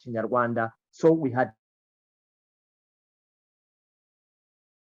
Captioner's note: audio cuts